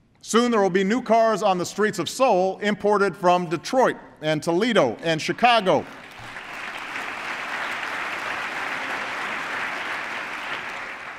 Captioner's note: applause